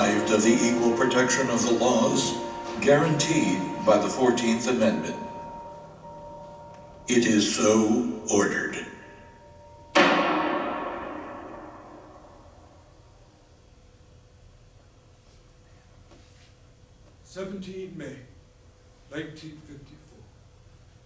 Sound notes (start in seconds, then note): 9.9 gavel